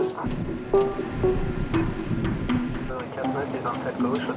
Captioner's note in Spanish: motores de avión rugiendo